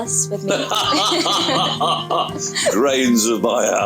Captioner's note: laughs